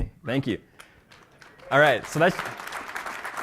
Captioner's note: applause